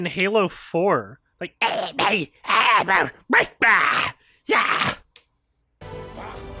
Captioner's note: grunt impression